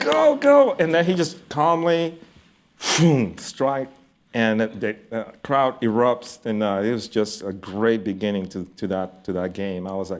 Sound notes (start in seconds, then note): 2.8 makes whooshing sound